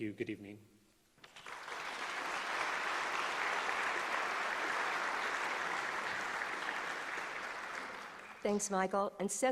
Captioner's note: applause